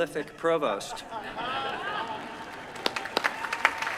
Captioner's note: laughter; applause